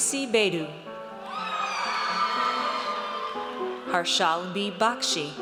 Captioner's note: audience cheers